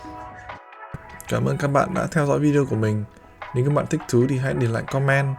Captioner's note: cameraperson speaks in a foreign language; speaks in a foreign language